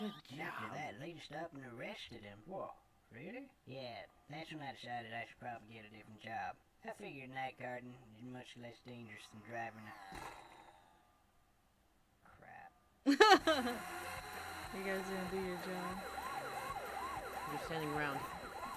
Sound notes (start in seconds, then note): 13.0 laughs